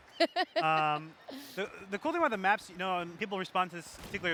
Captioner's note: laughs